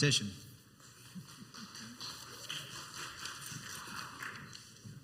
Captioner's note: scattered applause